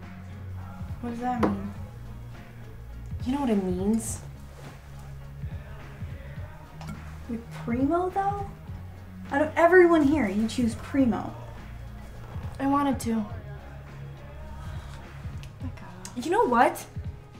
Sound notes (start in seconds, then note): none